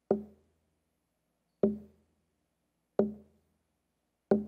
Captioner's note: none